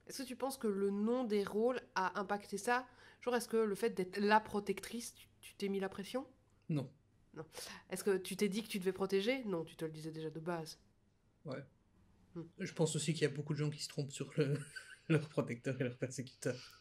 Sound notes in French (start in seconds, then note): 14.4 rire